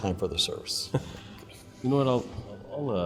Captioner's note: Pastor Luis chuckles